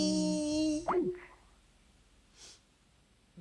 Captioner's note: call disconnects